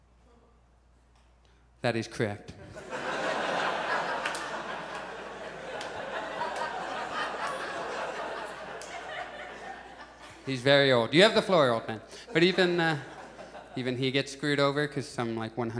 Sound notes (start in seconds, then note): 2.7 audience laughs